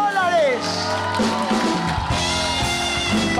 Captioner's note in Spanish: Gritos